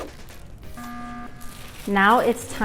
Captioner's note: alarm blares